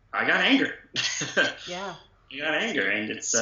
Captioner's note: laughter